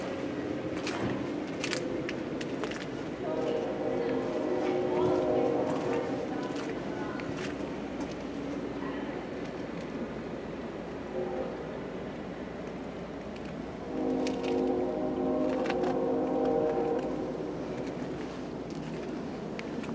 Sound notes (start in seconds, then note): 3.2 distant train whistle; 13.8 distant train whistle